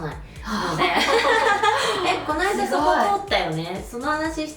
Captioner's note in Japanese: 笑い